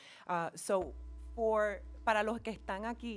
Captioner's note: speaking in foreign language